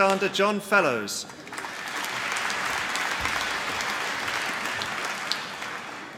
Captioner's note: applause